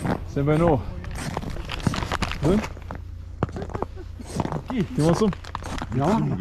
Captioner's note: speaks in foreign language